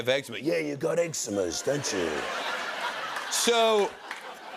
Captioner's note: laughter